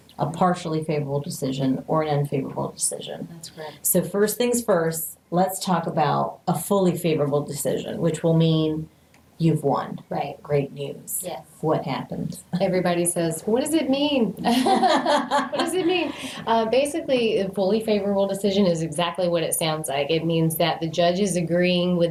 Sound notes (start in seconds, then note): 14.4 laughing